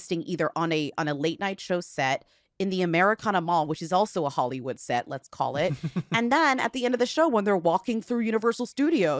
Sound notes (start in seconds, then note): 5.6 chuckles